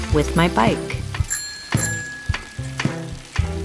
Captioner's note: bike bell rings